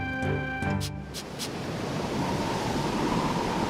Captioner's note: wind whistling